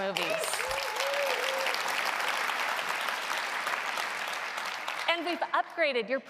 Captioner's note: applause